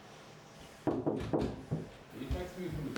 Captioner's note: knock at the Door